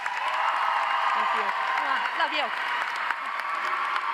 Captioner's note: audience applauds; audience cheers